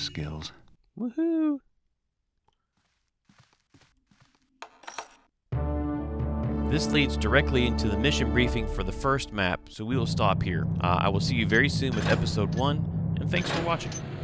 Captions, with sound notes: [quietly] Woohoo This leads directly into the mission briefing for the first map, so we will stop here. I will see you very soon with Episode 1 and thanks for watching!